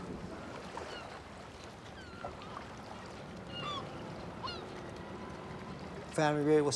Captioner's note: water moving with birds sounding